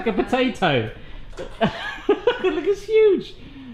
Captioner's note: laughs